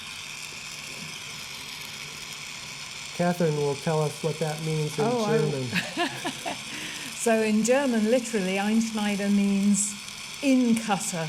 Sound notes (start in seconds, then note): 5.7 laughter